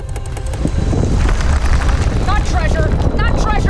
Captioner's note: rumbling